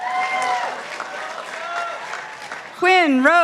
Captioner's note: participants applauding